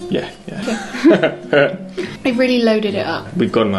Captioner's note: laughter